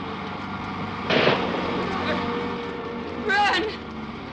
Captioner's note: gun firing